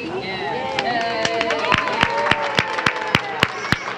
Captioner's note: applause